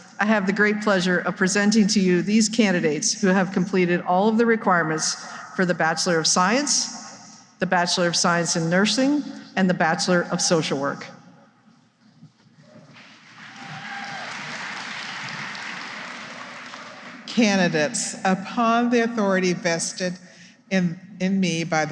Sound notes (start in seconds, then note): 12.9 applause